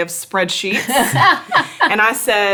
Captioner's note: laughs